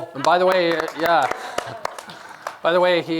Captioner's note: applause